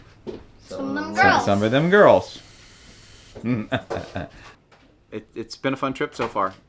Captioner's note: laughter